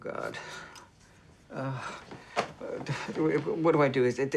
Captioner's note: groans